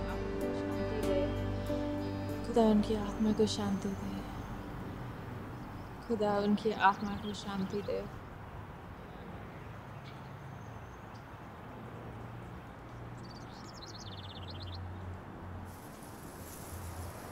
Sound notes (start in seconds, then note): 2.4 speaking in foreign language